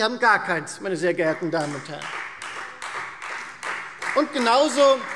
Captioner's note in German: Beifall Freie Demokraten und vereinzelt SPD